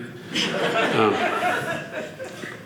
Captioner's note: audience laughing